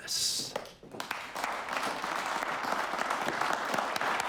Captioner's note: applause